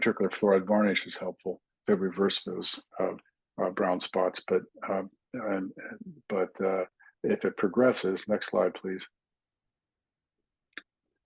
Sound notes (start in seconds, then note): 1.2 indistinct chatting